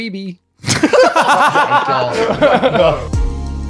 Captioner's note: laughing; vibrant music